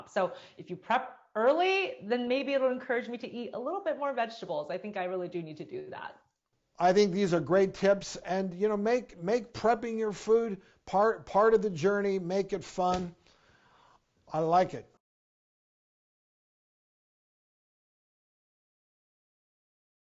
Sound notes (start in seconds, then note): 16.3 silent pause